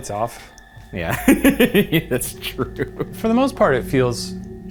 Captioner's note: chuckles